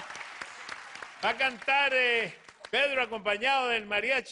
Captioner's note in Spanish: Aplausos